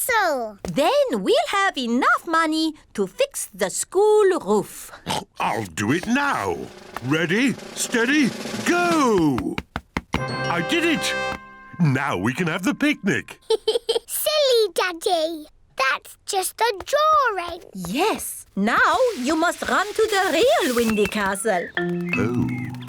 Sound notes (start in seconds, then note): 4.6 oinks; 13.3 giggles